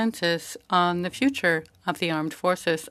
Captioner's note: speaking French